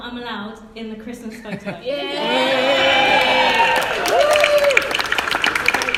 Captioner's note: cheering